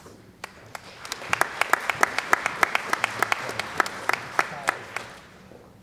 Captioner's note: applause